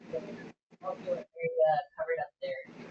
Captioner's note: static crackling; board member murmuring